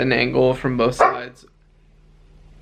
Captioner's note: Oliver barks